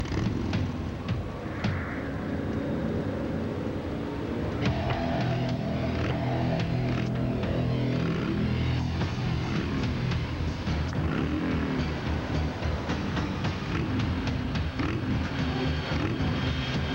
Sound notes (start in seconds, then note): 2.0 engine revs